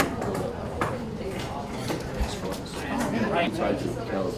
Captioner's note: students chattering